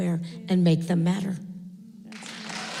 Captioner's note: applause